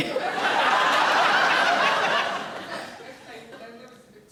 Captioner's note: audience laughing